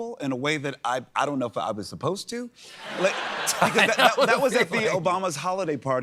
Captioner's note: laughter